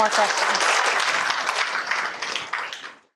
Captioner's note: applause